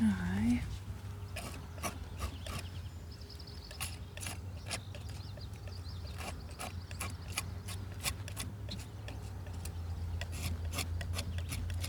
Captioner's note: birds chirping